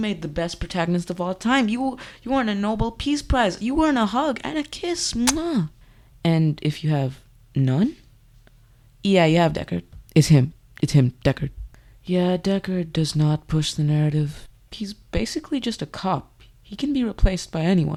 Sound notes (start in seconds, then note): 5.2 smooch